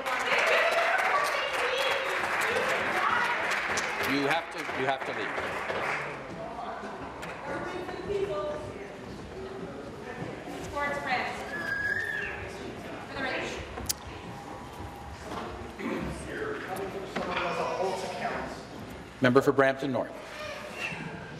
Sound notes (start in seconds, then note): 4.4 applause